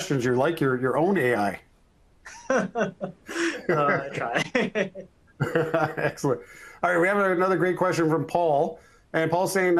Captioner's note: laughters